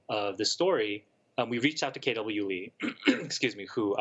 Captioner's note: clears throat